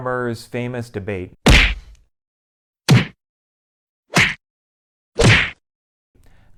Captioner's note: punching sounds